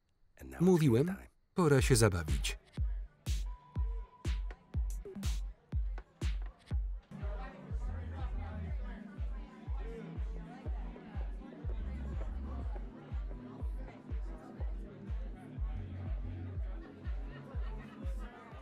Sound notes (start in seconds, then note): 3.2 mid-tempo electronic music; 7.2 party guests chattering